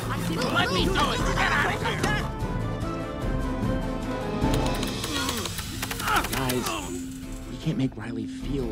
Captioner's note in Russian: дерутся и кричат друг на друга